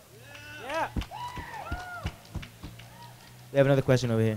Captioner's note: clapping and cheering